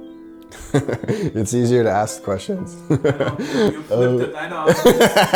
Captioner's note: laughing